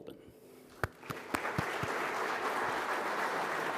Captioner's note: applauding